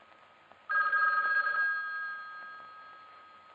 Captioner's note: phone ringing